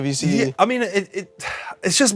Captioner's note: sighs